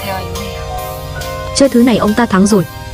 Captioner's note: Tiếng ồn phát sóng trực tiếp